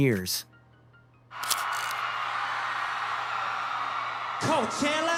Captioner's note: crowd cheering